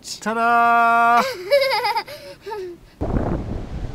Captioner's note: laughs